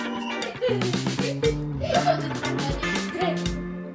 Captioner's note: child laughing